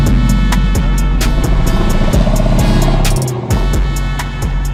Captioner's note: engine rumbles; engine revs